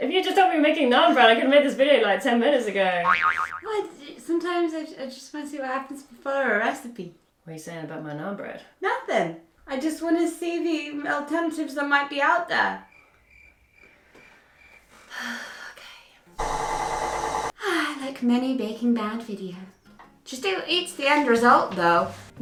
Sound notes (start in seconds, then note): 12.8 crickets sfx; 14.9 deep sigh; 16.4 mixer noise